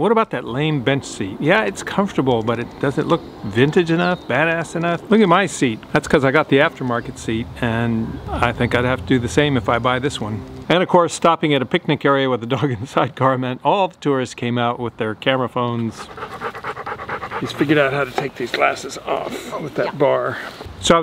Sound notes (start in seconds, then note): 15.8 dog panting